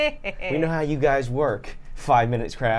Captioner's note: laughs